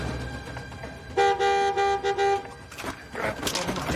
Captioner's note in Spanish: Sonidos del claxon